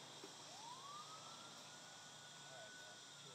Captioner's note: siren blaring